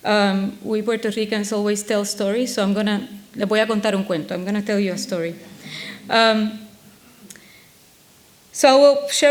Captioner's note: speaks in foreign language